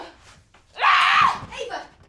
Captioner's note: screams